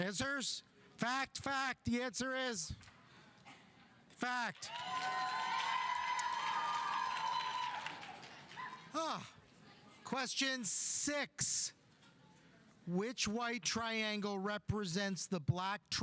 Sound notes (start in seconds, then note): 4.6 audience cheering; 4.6 audience applauding